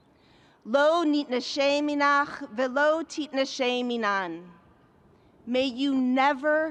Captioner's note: speaking in a foreign language